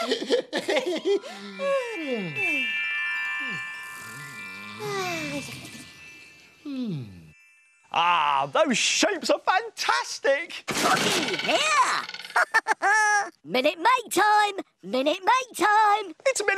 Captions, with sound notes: (all snore) Ah, those shapes are fantastic. Tocky here! (laughs) Minute Make time! Minute Make time!